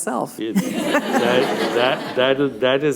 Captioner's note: laughter